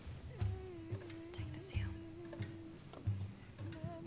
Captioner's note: wh ispers